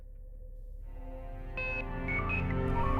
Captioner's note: electronic Beeping